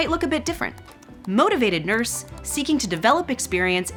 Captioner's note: keyboard clicking